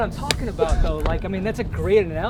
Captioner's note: laughing